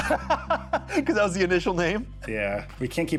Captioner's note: laughs